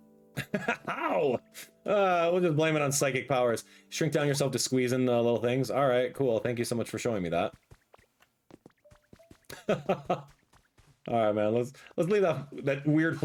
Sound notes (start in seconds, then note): 0.4 laughing; 9.4 laughs